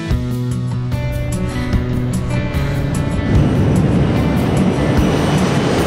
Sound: soft bright music; engine zooming

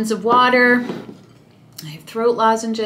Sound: mug clattering

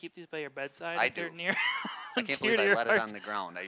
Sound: laughs

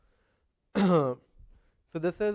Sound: cough

